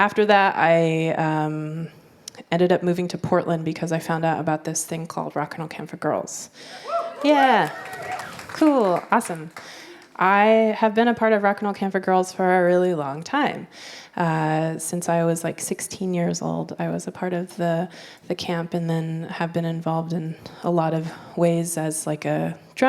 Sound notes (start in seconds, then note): 6.9 applause